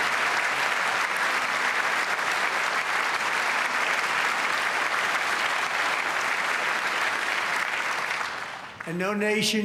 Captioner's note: applause